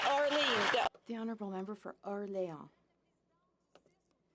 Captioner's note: some Applause